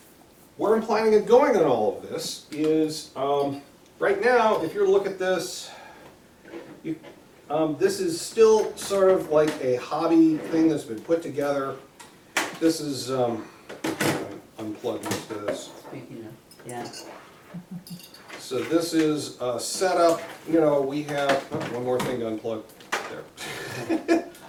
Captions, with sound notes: Where I'm planning on going on all of this. Right now if you're to look at this, this is still sort of a like hobby thing that's been put together. [disconnecting sounds] One more thing to unplug.